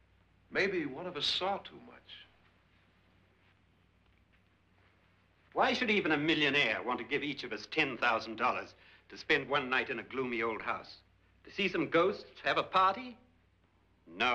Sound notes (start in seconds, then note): none